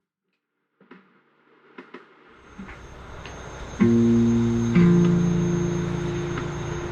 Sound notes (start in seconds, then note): 0.0 train clacking; 2.6 slow music